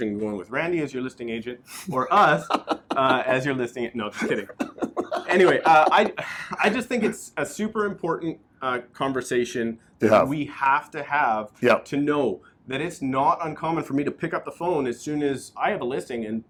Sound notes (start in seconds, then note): 1.9 laughs